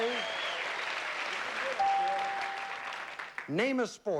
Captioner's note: bell chimes